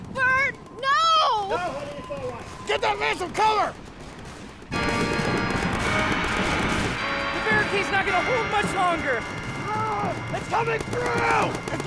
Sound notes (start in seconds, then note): 4.7 dramatic music; 4.9 guns firing